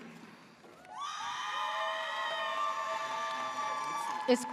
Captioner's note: audience cheers